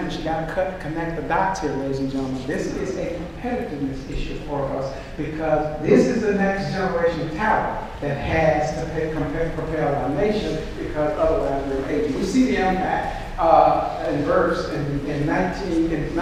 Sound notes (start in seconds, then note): none